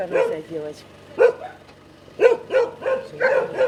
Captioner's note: dogs barking